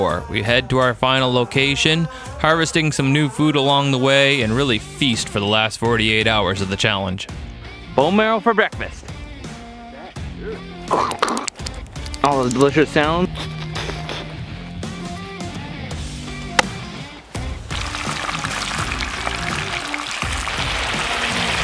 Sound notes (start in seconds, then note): 13.8 upbeat music; 17.9 fat crackling